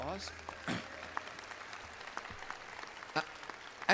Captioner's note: audience applauds